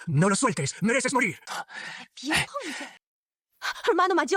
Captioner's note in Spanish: Suspiro